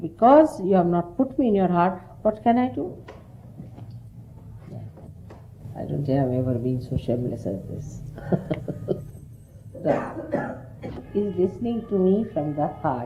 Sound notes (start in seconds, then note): 8.1 laughter